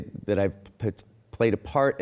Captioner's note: none